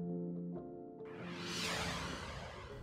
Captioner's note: soft swishing